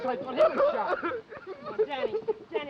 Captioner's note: Danny sobbing